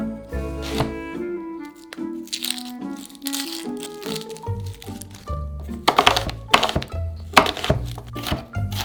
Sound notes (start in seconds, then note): 0.6 knife cutting; 1.6 onion paper peeling; 7.3 knife cutting